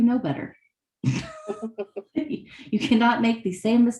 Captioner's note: laughter